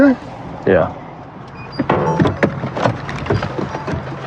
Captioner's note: bping